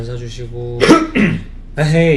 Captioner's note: coughs